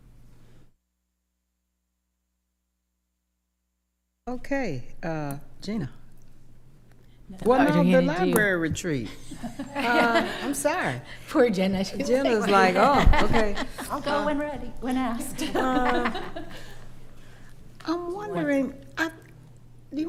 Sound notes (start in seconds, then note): 9.0 others laughing; 12.4 laughs; 15.2 laughing